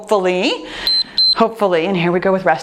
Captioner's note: timer beeps